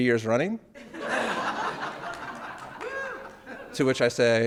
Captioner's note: audience laughing